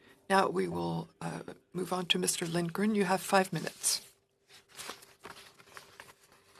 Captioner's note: speaking French